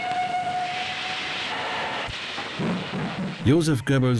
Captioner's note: train whistle blows